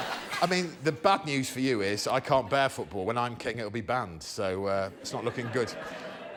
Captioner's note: laughter